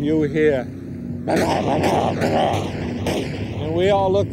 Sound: gun firing

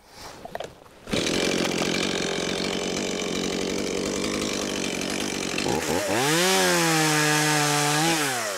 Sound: chainsaw

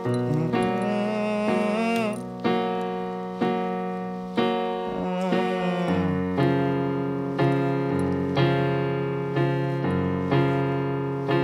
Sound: vocalizations

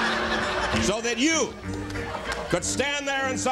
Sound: laughter

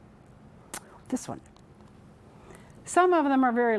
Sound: whispering

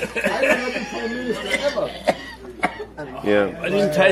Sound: dies from coughing and laughing

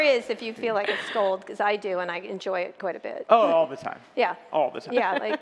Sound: laughter

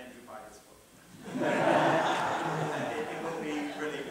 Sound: laughter

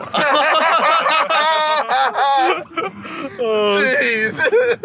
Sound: all laughing

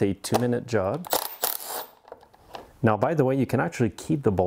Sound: screw squeaking

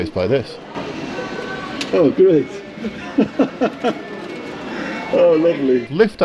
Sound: he chuckles

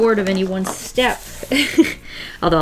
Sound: laughs

